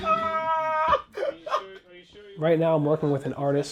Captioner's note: laughing